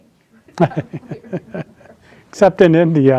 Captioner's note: laughing